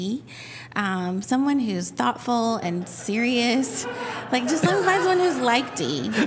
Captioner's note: laughter